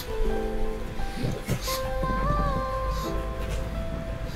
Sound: sniff sniff

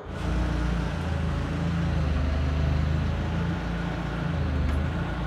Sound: forklift engine whirring

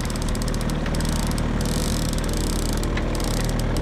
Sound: reel clicking in

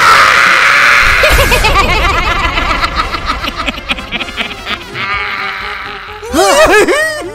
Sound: laughs

